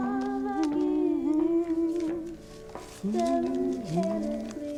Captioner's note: humming along